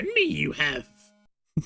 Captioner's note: giggles